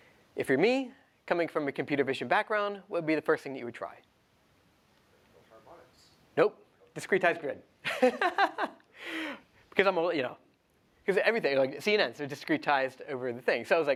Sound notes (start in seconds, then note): 7.9 laughs